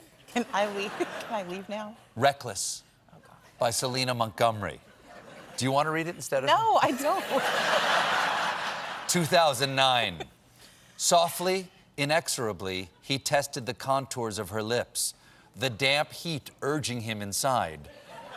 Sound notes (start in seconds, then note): 6.8 laughter